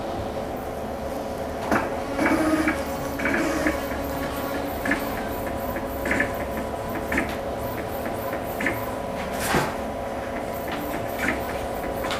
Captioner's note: printer machine noise